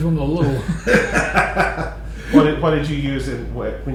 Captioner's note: laughter